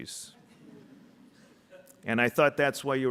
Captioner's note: audience laughing